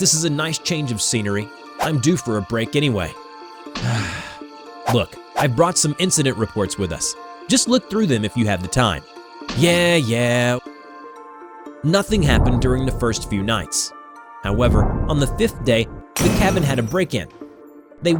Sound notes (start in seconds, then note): 3.8 sigh